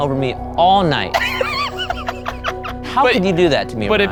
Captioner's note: everyone laughing